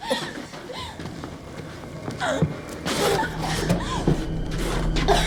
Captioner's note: Lindsay coughing; Lindsay wheezing; Lindsay gasping